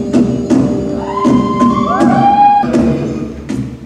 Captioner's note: cheering